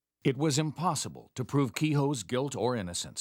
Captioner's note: voiceover